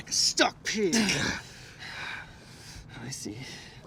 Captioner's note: men grunting